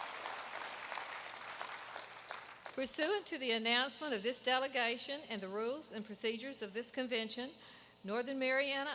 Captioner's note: applause